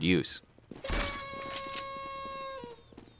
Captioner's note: sound of noisemaker